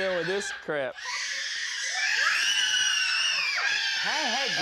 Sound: screaming

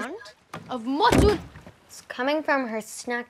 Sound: banging noise

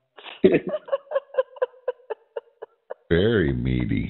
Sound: laughter

